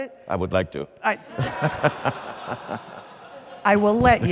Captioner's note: audience laughs; laughs